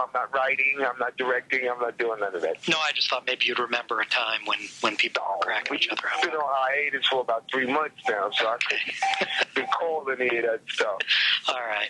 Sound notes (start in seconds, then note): 8.5 Marc laughs